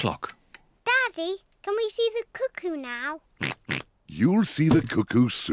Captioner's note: oinks